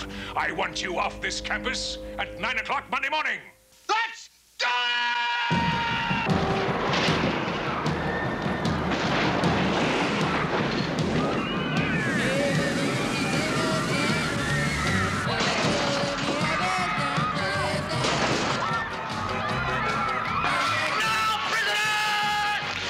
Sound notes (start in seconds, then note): 7.4 all screaming